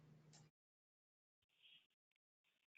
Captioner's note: pause